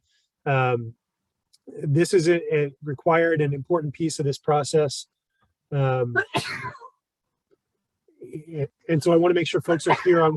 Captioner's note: sneeze